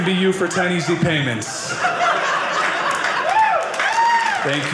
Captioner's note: audience applauding